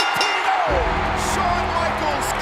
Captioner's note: bell rings